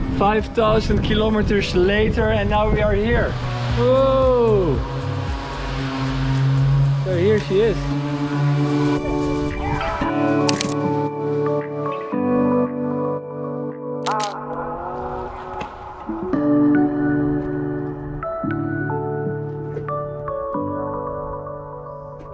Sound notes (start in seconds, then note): 7.9 relaxing music; 9.8 yell; 10.5 click